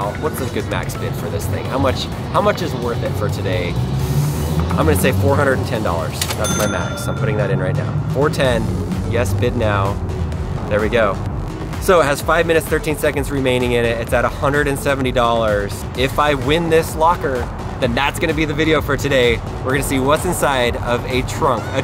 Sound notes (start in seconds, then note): 4.5 car engine roaring; 6.4 clicking; 10.5 upbeat music